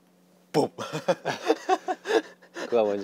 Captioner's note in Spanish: Jajaja